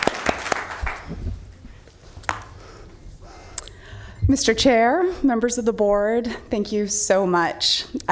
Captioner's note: applause